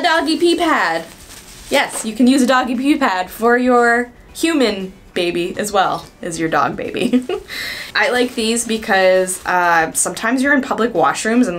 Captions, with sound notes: A doggy pee pad. Yes, you can use a doggy pee pad for your human baby as well as your dog baby. (giggles) I like these because sometimes you're in public washrooms